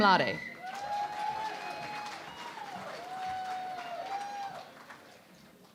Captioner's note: cheering and Applause